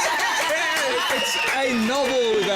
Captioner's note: cheers